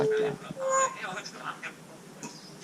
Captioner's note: parrot is speaking in the background